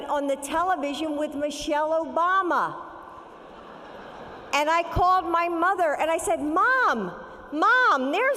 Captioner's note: laughter